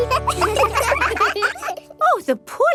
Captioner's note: children laugh